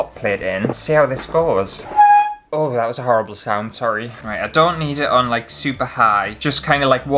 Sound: squeak!!

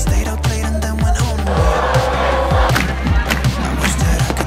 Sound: people cheer

